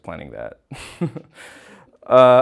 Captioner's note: nervous laugh